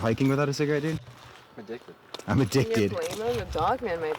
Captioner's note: mocking